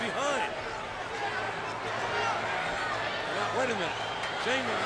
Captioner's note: crowd chattering